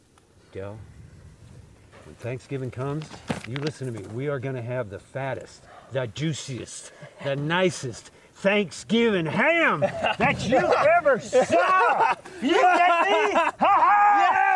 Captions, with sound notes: Del, when Thanksgiving comes, you listen to me. We are gonna have the fattest, the juiciest, the nicest Thanksgiving ham that you ever saw! (Del laughing) You and me, ha ha! - Yeah!